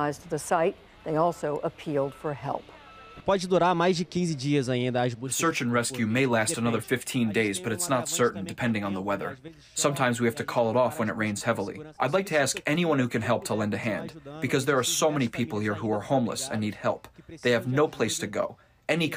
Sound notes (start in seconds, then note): 4.0 through translator